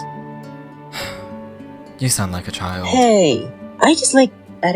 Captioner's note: sighs